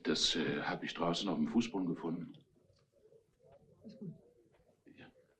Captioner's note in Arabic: موظف يتحدث بلغة أجنبية